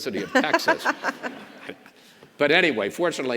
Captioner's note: governor laughs